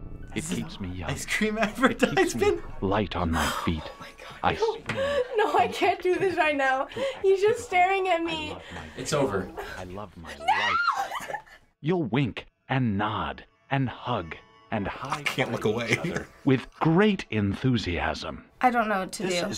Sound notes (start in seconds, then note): 1.1 laughing; 15.0 laughing